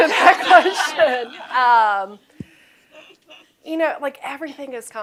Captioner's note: laughter